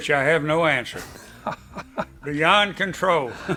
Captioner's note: laughing